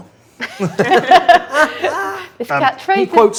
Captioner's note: group laughs